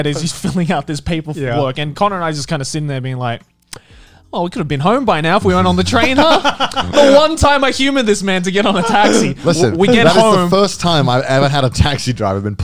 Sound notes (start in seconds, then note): 5.5 laughing